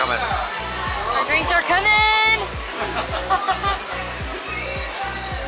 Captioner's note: laughter